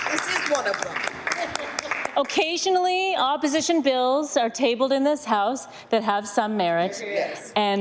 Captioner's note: some Applause